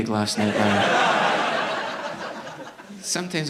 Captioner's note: audience laughing